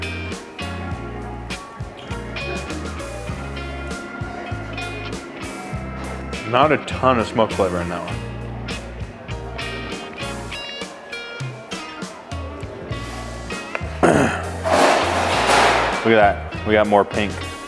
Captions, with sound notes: (upbeat music playing) Not a ton of smoke flavor in that one. (upbeat music playing) (pans clanging) Look at that, we got more pink.